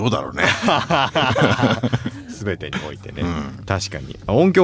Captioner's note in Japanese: 笑い